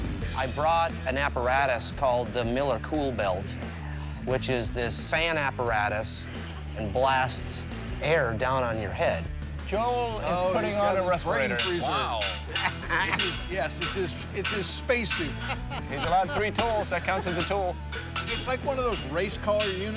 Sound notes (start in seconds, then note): 15.2 laughter